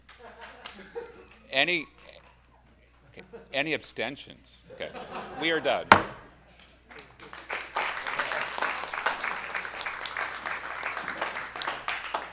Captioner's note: hits gavel; audience applauds